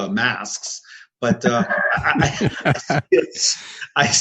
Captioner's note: laughter